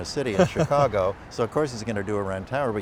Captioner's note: laughter